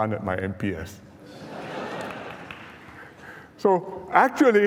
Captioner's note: laughter